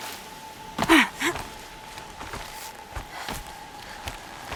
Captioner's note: Aloy grunts